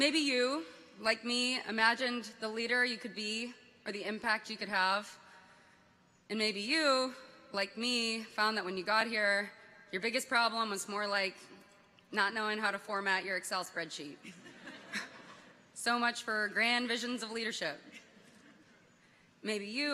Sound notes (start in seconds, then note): 14.2 people chuckle